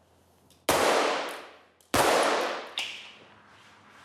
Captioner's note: bang, bang